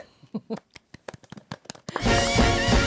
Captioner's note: clap clap clap